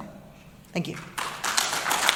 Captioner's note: applause